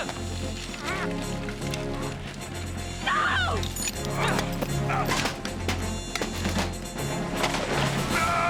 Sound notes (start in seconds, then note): 5.2 clattering; 7.4 splashing